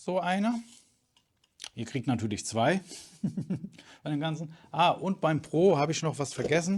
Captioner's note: laughter